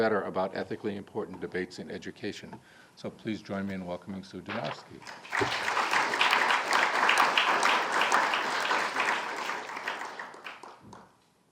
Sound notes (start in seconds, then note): 5.0 audience applauding